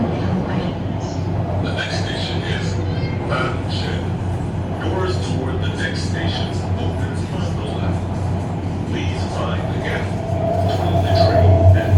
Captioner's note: Regular English announcement, no special announcement